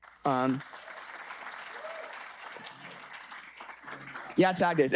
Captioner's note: audience applauding